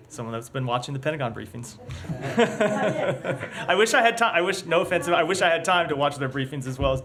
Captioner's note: laughter